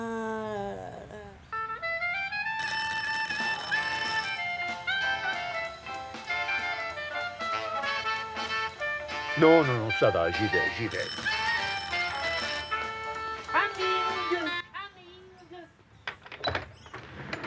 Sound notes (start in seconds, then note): 2.4 phone rings; 6.0 upbeat jazz music; 9.7 speaks foreign phrase